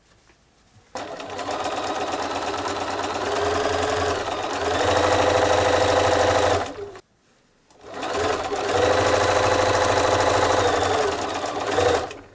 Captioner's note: sewing machine whirring